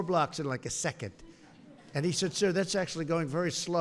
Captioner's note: laughter